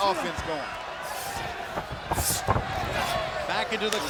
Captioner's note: body thudding; footsteps plodding